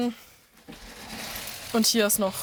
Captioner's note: rustling